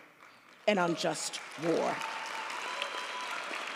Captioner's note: audience applauds